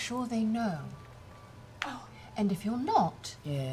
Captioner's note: breathless